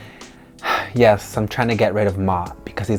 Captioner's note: sighs